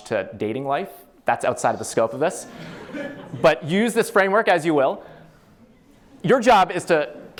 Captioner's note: laughter